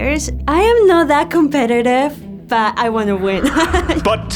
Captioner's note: laughs